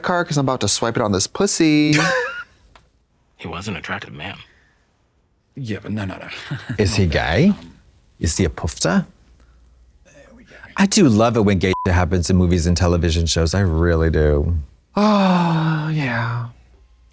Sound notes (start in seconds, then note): 2.2 Katya rasps; 11.7 beep